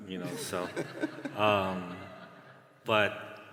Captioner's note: laughter